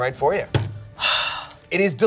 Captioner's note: sighs